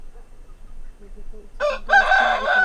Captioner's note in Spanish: canta gallo